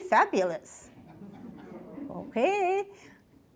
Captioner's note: audience laughs